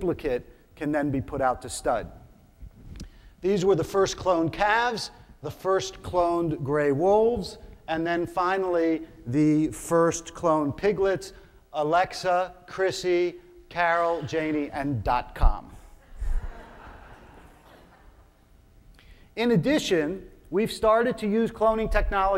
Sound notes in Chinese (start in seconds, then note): 16.1 眾笑